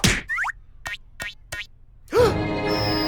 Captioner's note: gasps